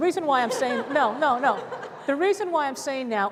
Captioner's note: laughter